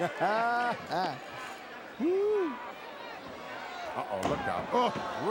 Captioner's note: Hillbilly Jim laughs